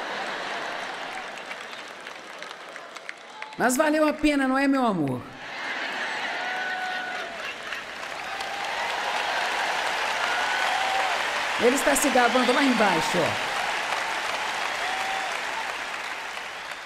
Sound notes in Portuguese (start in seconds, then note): 0.0 público rindo; 5.4 público rindo; 5.6 plateia aplaudindo; 11.7 plateia aplaudindo